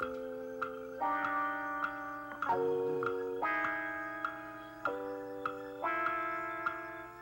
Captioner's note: clock ticking